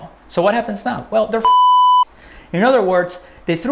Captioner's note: beep